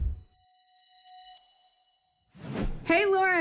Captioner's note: whoosh; futuristic sound